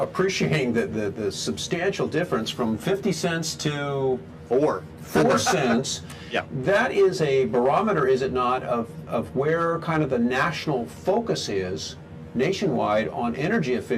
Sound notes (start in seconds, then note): 5.2 laughs